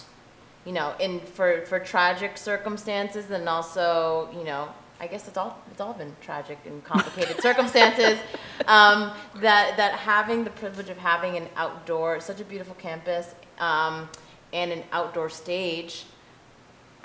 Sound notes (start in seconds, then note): 7.0 chuckling